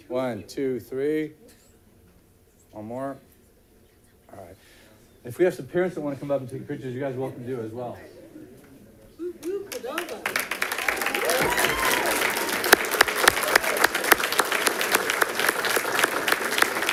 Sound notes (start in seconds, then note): 9.4 audience clapping; 9.7 audience cheering